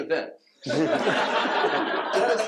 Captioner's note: laughter